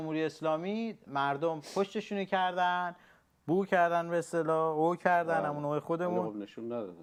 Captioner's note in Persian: صدای خرناس